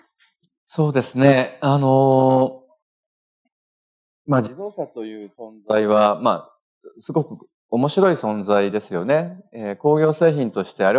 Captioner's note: speaking japanese